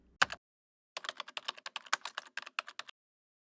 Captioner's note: keyboard clacking